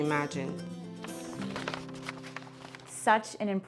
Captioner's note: paper crinkling